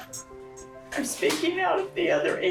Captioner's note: murmuring